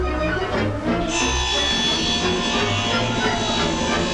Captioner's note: tree sawing